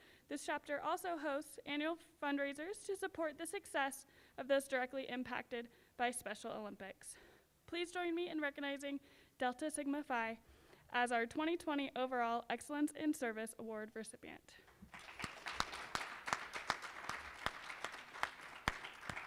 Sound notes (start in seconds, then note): 14.7 applause